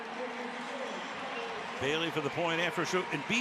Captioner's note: pa announcement